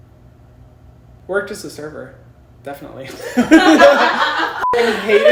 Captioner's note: beep